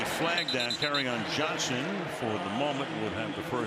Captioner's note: whistle